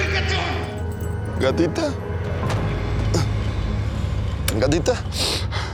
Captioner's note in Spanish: Solloza